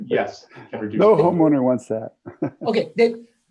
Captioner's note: laughs